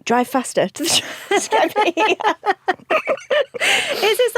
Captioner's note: both laugh